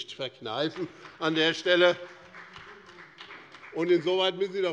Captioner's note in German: Beifall bei Abgeordneten des BÜNDNISSES 90/DIE GRÜNEN